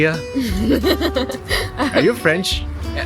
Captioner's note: awkward laugh